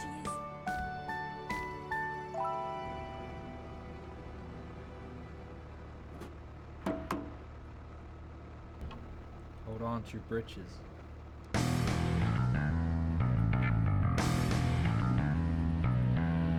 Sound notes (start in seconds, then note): 6.7 Mathilde slaps tank; 11.6 electric guitar-driven rock